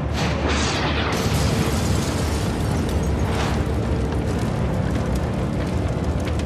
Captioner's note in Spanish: Explosión